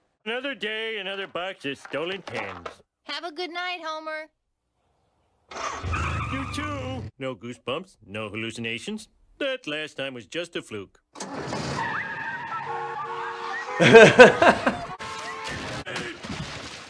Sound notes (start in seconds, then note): 11.7 cars honking; 13.8 laughing